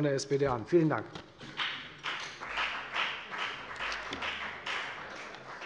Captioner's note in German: Beifall bei der FDP